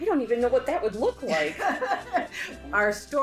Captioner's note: laughing